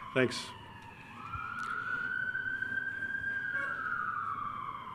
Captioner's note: siren blaring